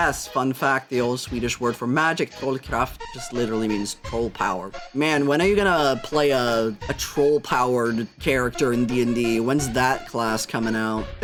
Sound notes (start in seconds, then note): none